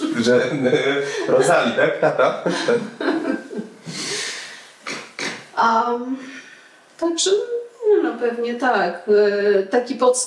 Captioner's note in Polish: śmiech